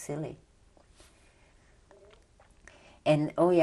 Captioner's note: pauses for 3 seconds